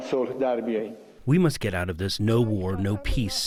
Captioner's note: through translator